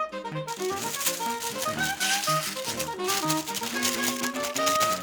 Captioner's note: quick music; wax paper crinkles